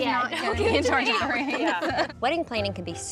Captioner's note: everyone laughs